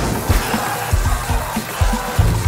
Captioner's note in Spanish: Gritos estáticos